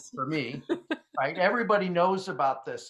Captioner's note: laughs